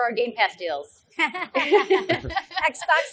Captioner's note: laughs